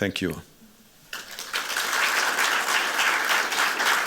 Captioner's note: applause